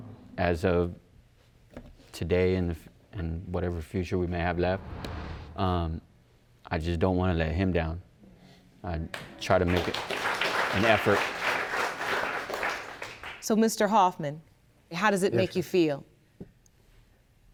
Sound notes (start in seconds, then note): 11.3 audience applauding